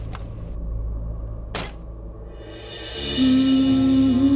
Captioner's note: Door opens